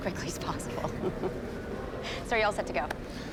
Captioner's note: laughs